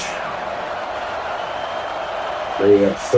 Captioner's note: crowd Noises